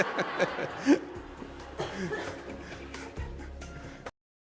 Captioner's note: laughter